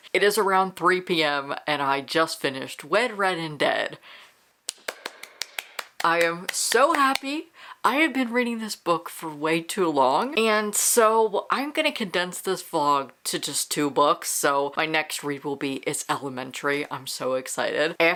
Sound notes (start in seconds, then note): 4.7 claps